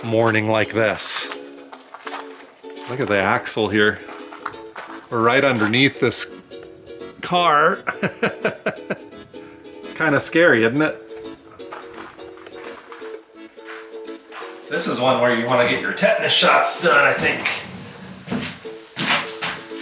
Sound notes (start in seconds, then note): 7.6 laughs